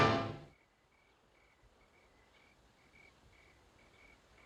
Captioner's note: crickets chirping